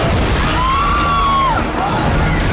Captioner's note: spectators screaming